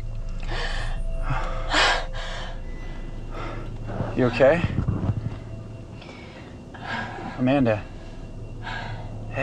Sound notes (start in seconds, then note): 0.0 low suspenseful music; 6.7 Amanda panting